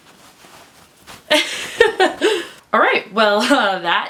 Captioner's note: laughs